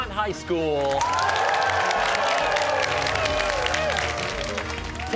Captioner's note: cheers and applause